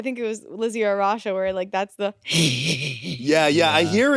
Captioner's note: chuckles